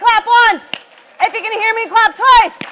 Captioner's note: audience claps